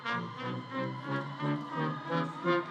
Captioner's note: audience cheers